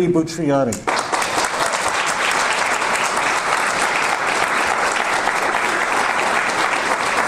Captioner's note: audience applause